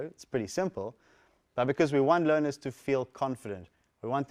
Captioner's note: none